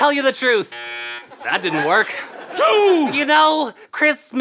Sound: buzzing

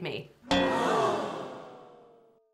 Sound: gong, Followed by Crowd Sighing Sound Effects

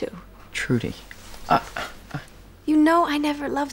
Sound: Bray groans

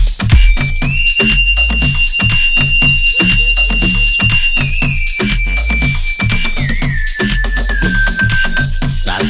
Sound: man whistling while milking a cow

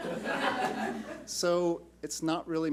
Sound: laughs

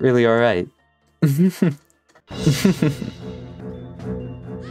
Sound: tense music; laughs

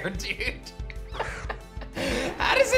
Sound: laughs

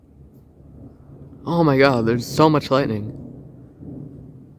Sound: distant thunder

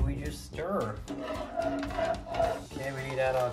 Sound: spoon clanking

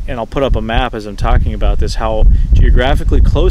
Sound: none

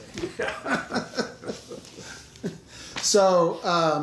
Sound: laughing

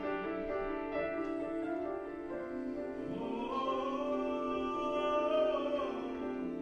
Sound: oos and vocalizations

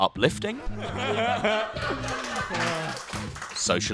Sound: laughter and clapping

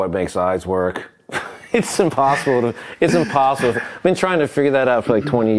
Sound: laughs

